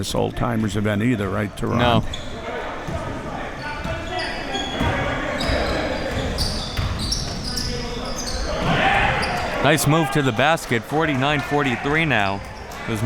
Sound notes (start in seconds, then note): 3.4 audience chattering and yelling